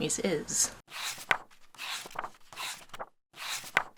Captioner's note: pages turning